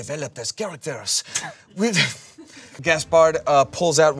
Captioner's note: everyone laughs